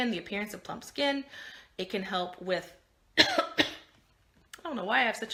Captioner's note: coughing